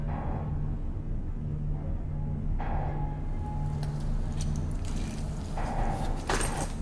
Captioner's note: ominosa de la música; tuberías de ruidos